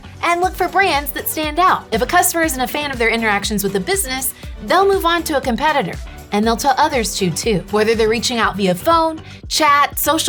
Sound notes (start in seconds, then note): none